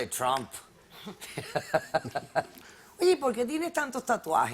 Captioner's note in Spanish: Ríe